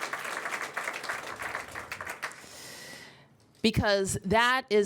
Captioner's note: applause